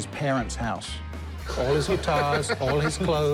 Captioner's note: laughs